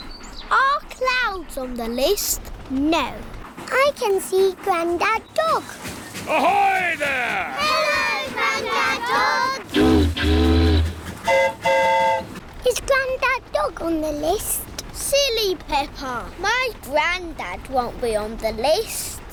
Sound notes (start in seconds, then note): 9.6 train horn toots; 9.7 boat horn honks